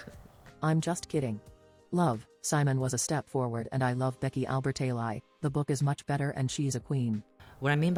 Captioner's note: robot voice